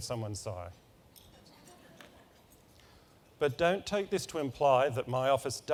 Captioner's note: laugh